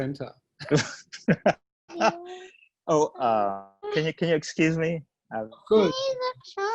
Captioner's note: laughs